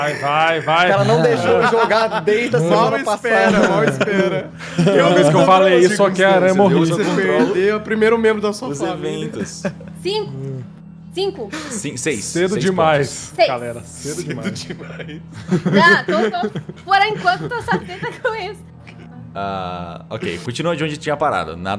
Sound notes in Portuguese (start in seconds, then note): 18.0 risadas